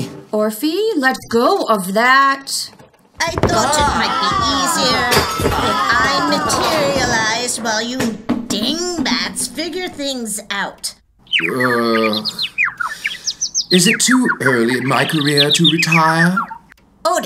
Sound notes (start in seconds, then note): 3.4 family screaming; 11.1 bird chirping; 11.5 Richard-Lael groaning